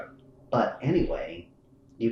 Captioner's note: laughs